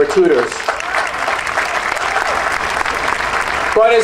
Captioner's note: audience cheering and applauding